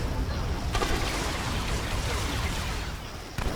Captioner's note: gun firing